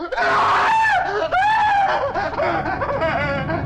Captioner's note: Papers screaming